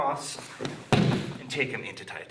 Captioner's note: loud thumping